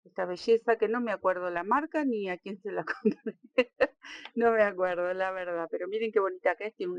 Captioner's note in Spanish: risas